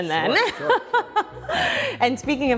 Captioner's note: laughs loudly